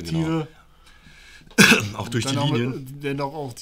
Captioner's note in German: Hust